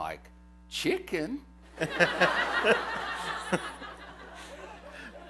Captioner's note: laughter